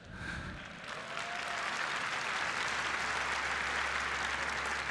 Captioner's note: applause